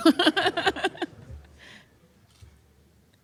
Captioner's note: laughter